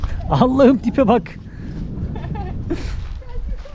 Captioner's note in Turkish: kahkaha